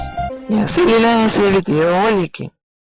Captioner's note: distorted voice